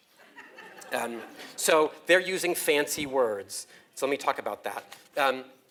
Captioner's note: laugh